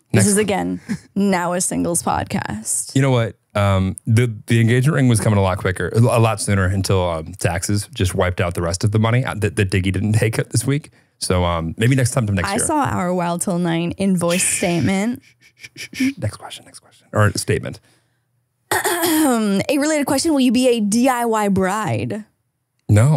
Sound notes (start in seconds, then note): 14.3 shushes; 18.7 clears throat